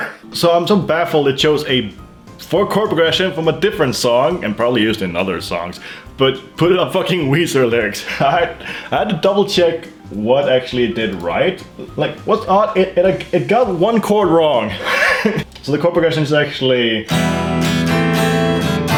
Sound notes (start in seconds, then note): 12.5 stutters; 14.7 laughs